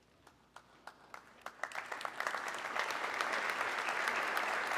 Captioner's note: audience clapping